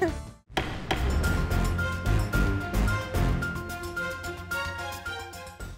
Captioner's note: gavel bangs; dramatic outro music